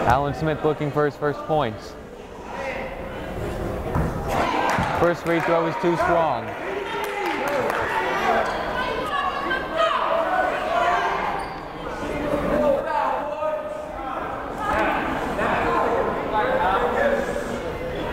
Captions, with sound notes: Alan Smith looking for his first points. First free throw is too strong. (yelling) (chattering)